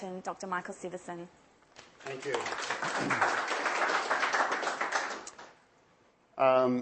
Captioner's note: applause